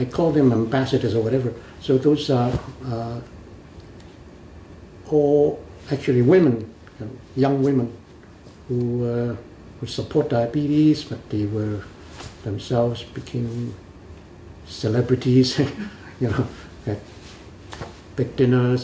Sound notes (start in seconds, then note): 15.6 laughs